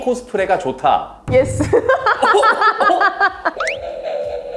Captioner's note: laughs